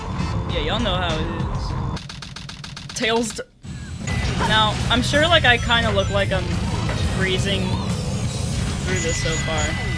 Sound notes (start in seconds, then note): 2.0 typing sounds